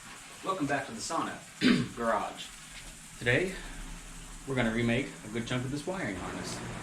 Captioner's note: cough